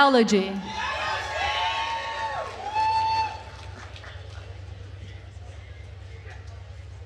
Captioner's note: attendees cheering and applauding